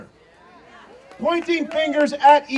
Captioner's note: audience cheering